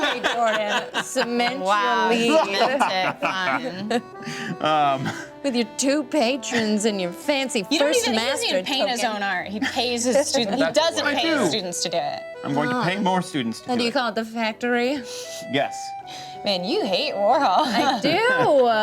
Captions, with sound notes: Okay, Jordan, cement your lead. - Wow. (laughs) - With your two patrons and your fancy first master-- - He doesn't even paint his own art, he pays his students. - He doesn't pay his students to do it. - I'm gonna pay more students to do it. - And do you call it The Factory? - Yes. - Man, you hate Warhol. - I do!